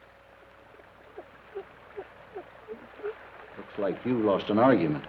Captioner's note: rocker box squeaks rhythmically